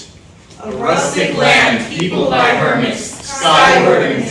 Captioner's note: in Unison